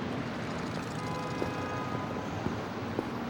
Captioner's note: vehicles honking